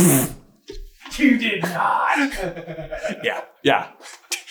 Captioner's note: giggles